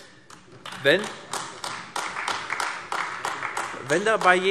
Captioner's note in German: Beifall AfD